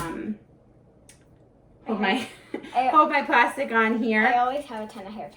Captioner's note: chuckles